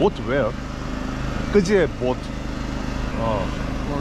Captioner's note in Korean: 러시아어